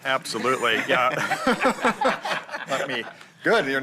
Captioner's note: laughter